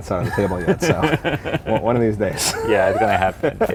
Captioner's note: laughter